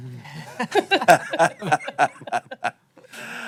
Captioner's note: laughter